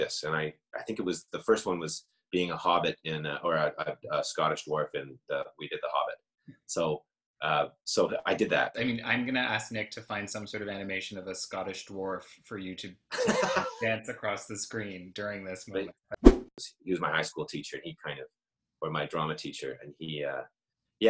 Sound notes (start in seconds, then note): 16.2 whoosh